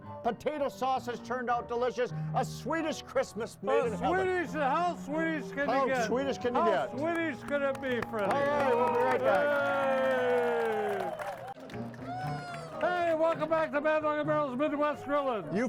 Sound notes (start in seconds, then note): 7.8 group cheers; 11.9 crowd applauds; 11.9 crowd cheers